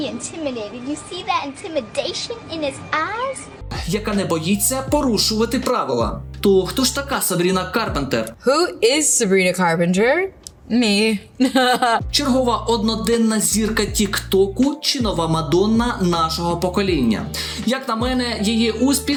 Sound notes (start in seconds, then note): 11.4 laughter